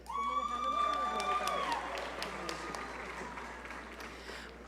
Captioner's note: audience cheering